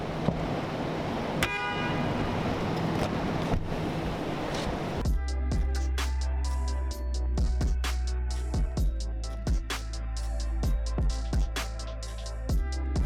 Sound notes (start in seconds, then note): 1.4 car horn; 5.0 electronic music